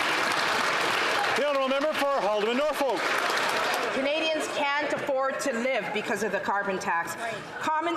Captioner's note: some Applause